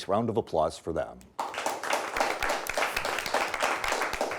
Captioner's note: clapping